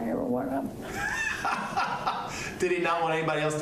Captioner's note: laughs